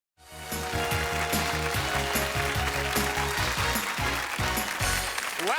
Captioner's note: theme music; audience applause